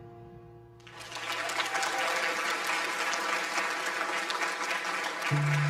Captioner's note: audience applause